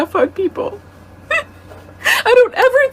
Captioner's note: crying